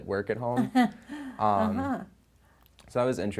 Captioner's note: soft chuckle